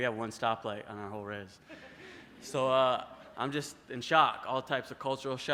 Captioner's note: laughter